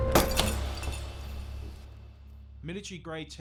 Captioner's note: glass breaking